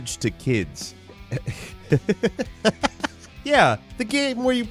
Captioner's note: laughing